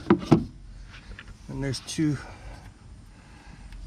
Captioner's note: plastic thumping